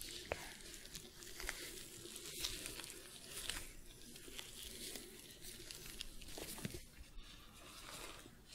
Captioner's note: shuffling, glove sounds; shuffling